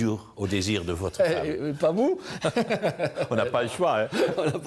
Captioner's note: laughs